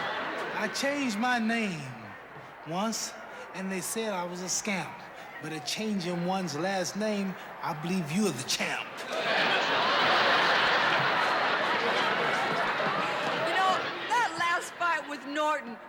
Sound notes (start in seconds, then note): 8.9 laughter